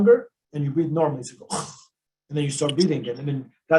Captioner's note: snorts